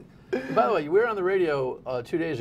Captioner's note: laughter